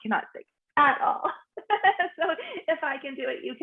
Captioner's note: laughs